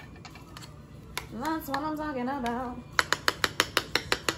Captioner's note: sing-song